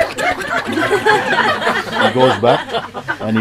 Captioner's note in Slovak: Smiech